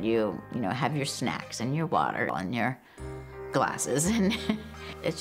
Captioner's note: laughs